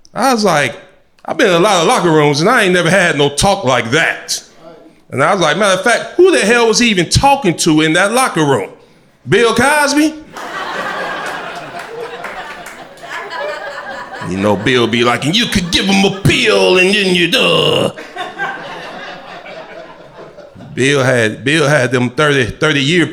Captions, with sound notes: I was like, I beat a lot of locker rooms and I ain't never had no talk like that. And I was like, matter of fact, who the hell was he even talking to in that locker room? Bill Cosby. (crowd laughter) You know, Bill be like, “And you could give him a ill and then you (groans)” Bill had, Bill had them 30, 30 year